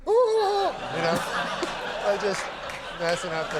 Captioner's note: crowd laughs